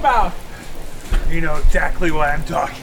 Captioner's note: thunder crashing